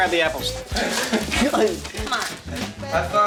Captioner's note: all laugh